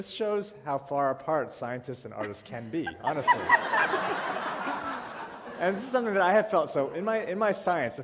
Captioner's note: laughter